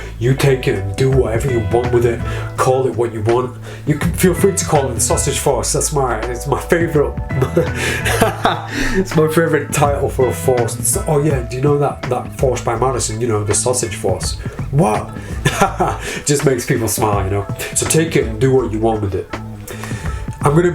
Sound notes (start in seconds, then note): 7.3 laughs